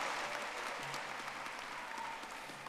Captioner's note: audience applauding